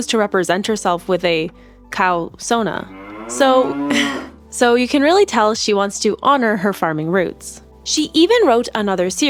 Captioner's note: laughs